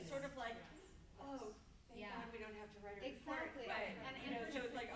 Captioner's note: murmuring